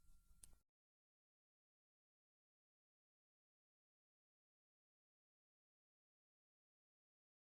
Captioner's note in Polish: Cisza